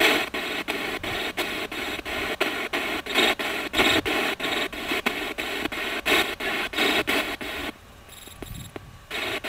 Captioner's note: radio noise from the spirit box